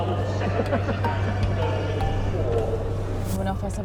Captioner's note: laughing